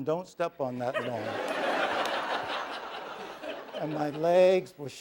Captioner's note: laughter